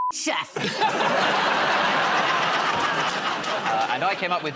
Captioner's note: laughter